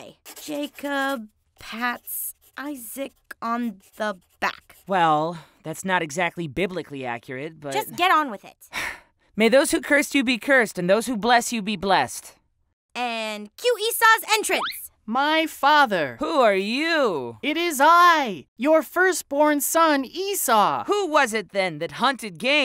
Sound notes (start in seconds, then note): 8.5 sighs